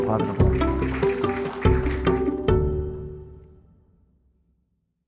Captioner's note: audience applauding; light music